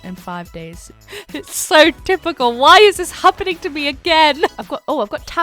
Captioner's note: laughs